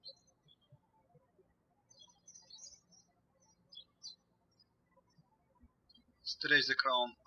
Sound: birds chirping

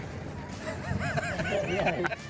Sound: chuckles

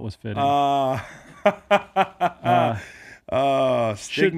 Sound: laughs

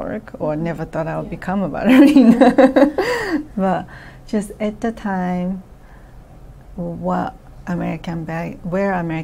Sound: laughs

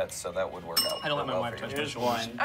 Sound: bell dings

